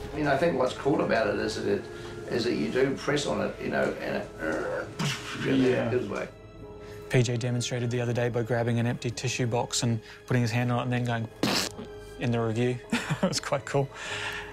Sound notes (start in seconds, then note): 4.1 mimics creaking, then explosion; 11.4 mimics squishing